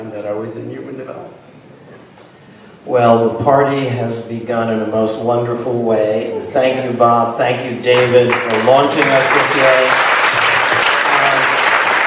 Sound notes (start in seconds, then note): 3.2 voiceover; 9.7 applause